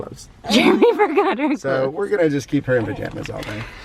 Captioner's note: laughing